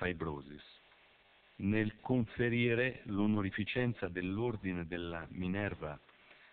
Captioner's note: Italian